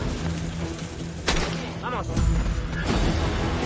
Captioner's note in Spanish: Disparo